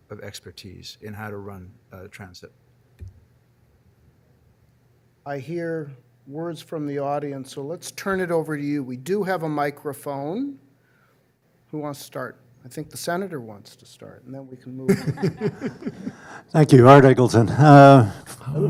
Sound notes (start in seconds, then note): 14.9 panelists laughing